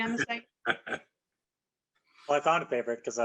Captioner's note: laughs